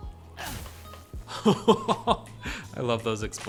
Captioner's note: laugh